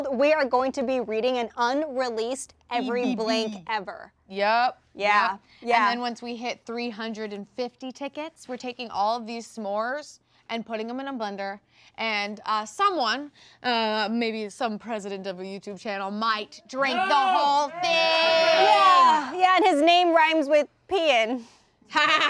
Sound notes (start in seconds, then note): 18.2 yelling; 21.9 laughing